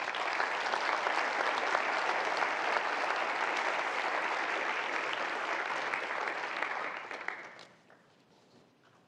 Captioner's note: applause